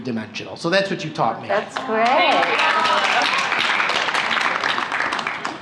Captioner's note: laughter and applause